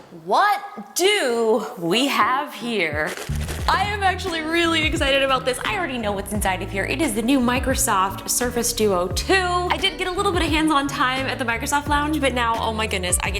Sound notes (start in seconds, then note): 3.0 box shaking